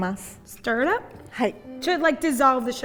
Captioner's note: speaking in Japanese